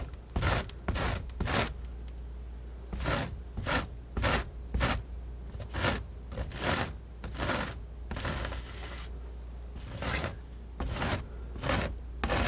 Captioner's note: scratching